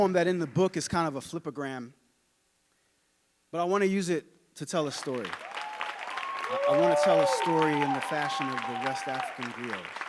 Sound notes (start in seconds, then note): 5.0 audience cheering and applauding